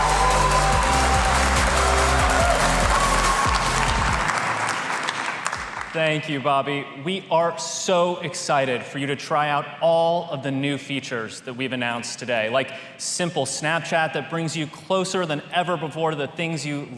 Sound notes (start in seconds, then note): 7.5 applause